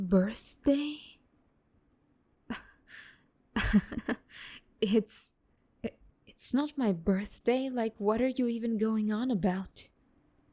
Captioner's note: nervous laugh